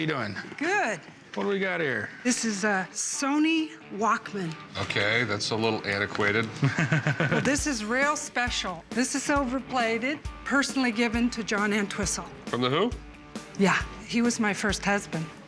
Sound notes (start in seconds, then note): 6.3 Corey laughs